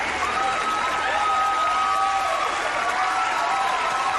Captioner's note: cheers; applause